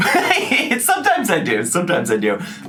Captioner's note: laughing